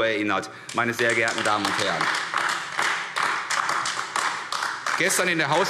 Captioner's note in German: Beifall AfD